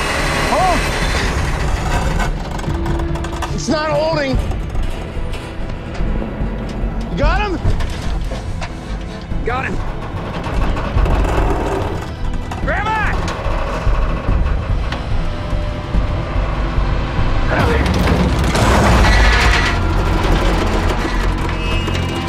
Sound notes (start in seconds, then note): 4.2 creaking; 19.7 shouting